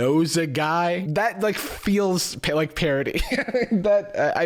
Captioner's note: laughs